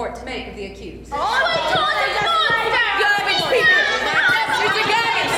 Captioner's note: courtroom shouting